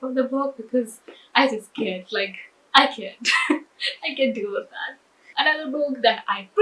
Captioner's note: laughs